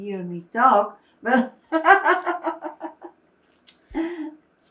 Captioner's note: laughing